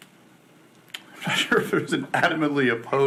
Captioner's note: laughs